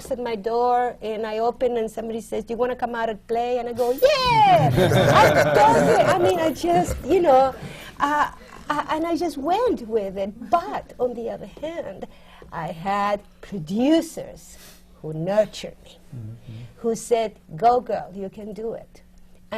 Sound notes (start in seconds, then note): 4.5 laughter